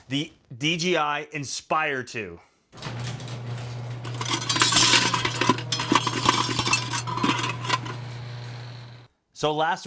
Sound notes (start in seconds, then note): 2.4 metal rattling